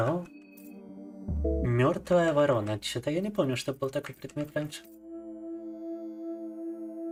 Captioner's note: speaking in foreign language